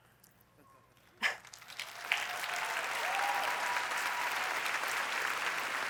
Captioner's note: applause